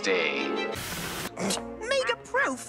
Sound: scoffs

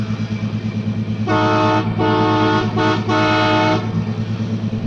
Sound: train horn; sound of the train moving

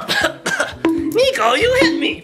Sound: punching sound; coughs

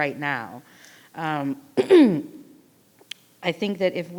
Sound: clears her throat

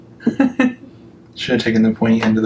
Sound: laughs

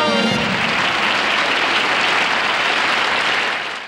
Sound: audience applauding

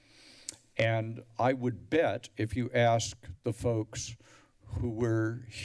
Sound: tongue clicks

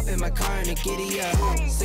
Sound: beeps

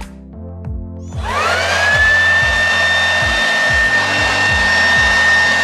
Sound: leaf blower whirring

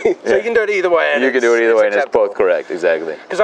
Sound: laughs

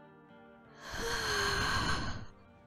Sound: exhales

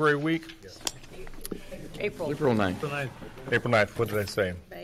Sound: multiple Voices

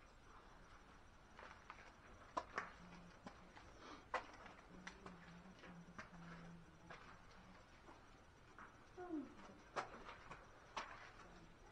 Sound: footsteps

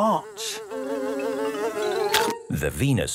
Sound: buzzing; chomps

